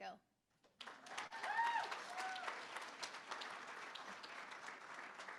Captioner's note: applause; cheering